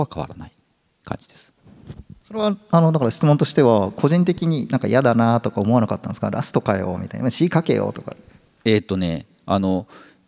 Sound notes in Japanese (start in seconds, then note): none